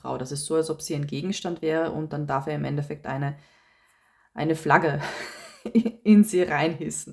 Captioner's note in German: gelächter